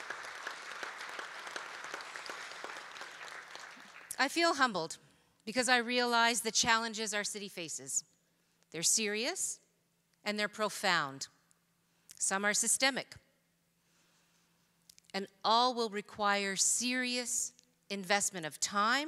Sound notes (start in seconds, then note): 2.0 applause